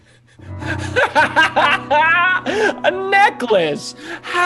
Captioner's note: Ted laughing